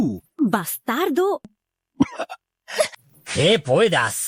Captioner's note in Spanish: Cof